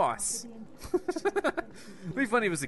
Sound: laughing

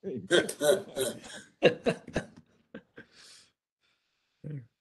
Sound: laughter

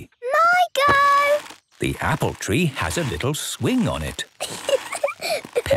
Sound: giggling

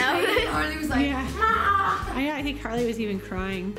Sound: moaning

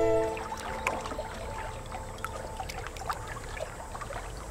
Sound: water gently lapping

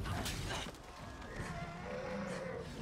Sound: harry grunting

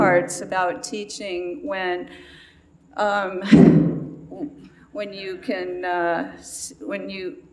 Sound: loud sigh

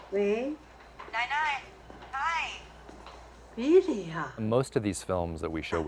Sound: female movie character speaking foreign language

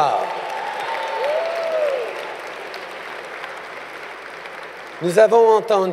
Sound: applause

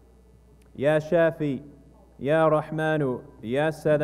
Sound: speaking non-english

